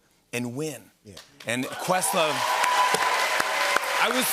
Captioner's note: cheers and applause